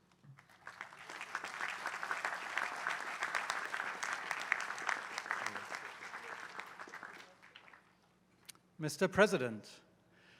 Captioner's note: applause